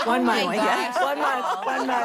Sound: laughing

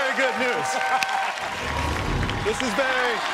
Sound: laughing

